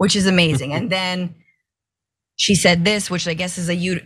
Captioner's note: laugh